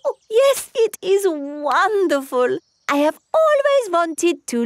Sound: laughs

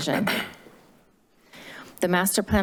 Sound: clearing throat

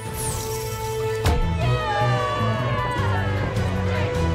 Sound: cheering

